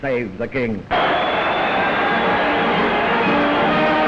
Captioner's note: cheers from crowds